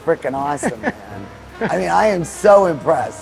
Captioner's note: laughing